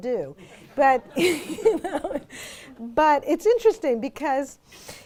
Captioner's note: audience laughs